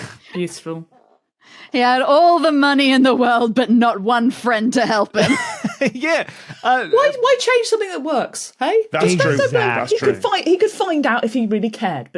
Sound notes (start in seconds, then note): 6.2 wheezes